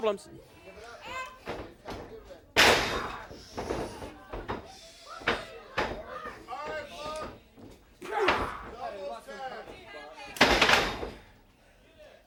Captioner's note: crowd chatter